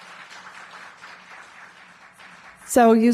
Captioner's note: audience applause